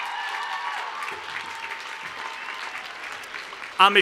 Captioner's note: cheers and Applause